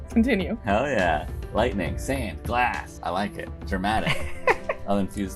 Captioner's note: laughter